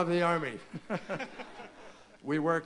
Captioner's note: laughter